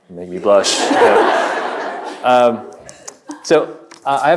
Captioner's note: audience laughing